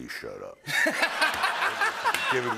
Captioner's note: laughter and applause